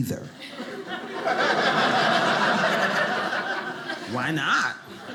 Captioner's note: audience laughing